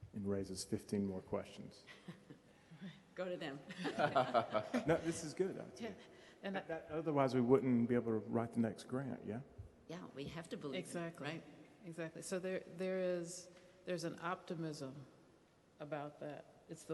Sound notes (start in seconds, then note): 3.6 laughing